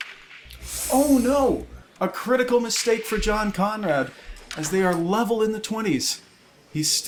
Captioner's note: gasp